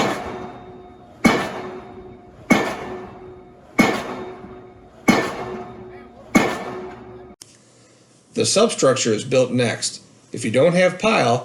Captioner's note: pile Driving